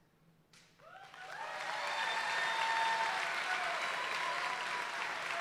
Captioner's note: audience applauds and cheers